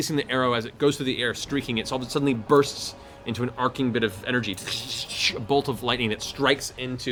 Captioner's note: crackling energy